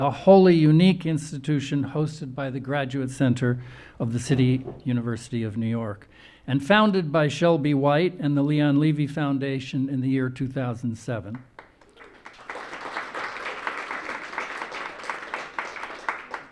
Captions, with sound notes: a wholly unique institution hosted by The Graduate Center of the City University of New York, and founded by Shelby White and the Leon Levy Foundation in the year 2007. (audience applauding)